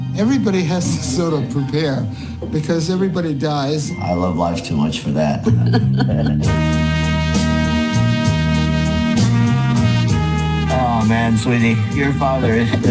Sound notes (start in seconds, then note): 5.3 laughing; 7.0 upbeat music